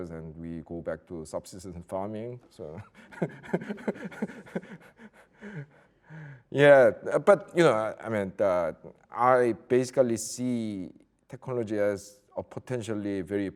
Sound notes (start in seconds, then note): 3.0 laughs loudly; 3.2 audience laughing